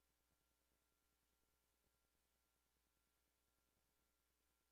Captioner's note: none